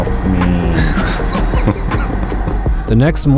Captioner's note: laughing